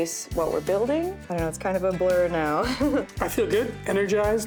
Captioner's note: laughter